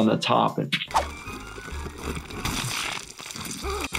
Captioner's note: plant oozing; Lumpy gasping